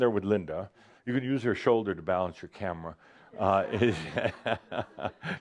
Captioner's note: chuckles